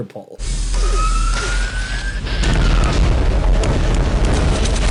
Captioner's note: launcher firing